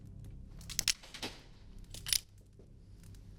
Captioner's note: gun clicking